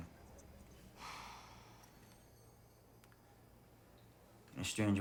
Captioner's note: Kelly sighs